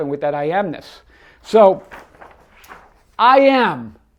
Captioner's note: paper crinkling